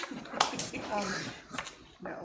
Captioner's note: laughing